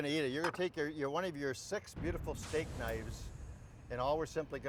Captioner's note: none